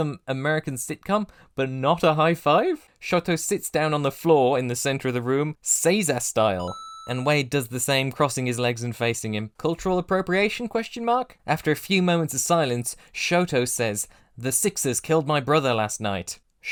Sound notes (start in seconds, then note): 6.6 ding!